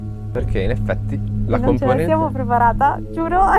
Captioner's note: laughs